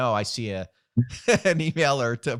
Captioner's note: laughing